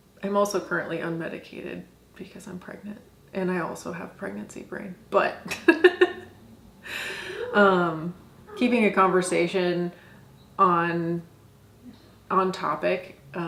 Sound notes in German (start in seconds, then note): 7.0 lacht